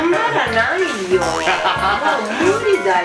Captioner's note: laughs